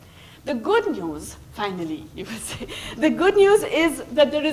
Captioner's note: laughs